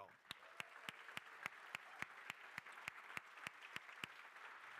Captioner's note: crowd applauding